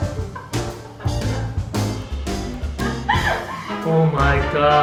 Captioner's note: laughing